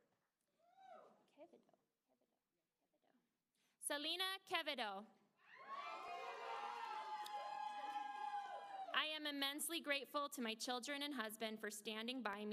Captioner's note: applause